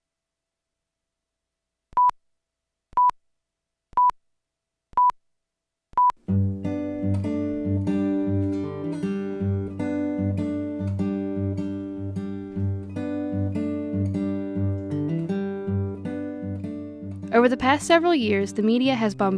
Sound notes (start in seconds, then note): 2.5 beeping; 6.9 acoustic guitar music